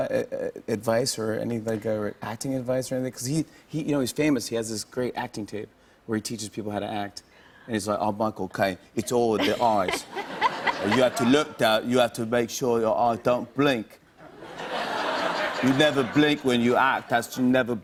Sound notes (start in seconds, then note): 9.4 laughter; 14.2 laughter